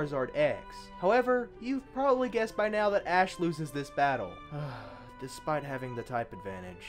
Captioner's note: sighing